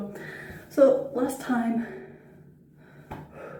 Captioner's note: deep breath